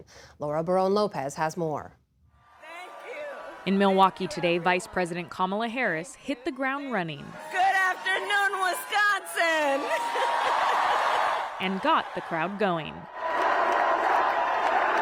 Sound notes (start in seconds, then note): 11.5 applause; 11.5 cheering